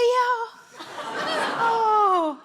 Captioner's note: audience laughing